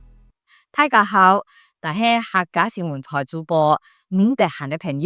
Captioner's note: hakka dialect